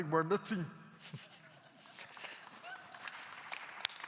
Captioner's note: claps